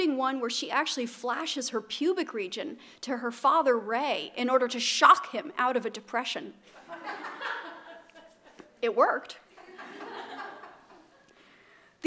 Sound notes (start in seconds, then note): 6.7 laughter